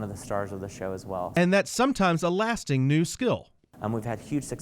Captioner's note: voiceover